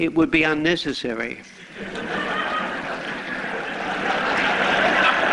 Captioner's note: laughter